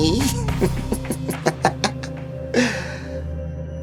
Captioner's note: evil laugh